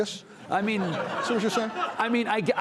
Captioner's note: audience laughing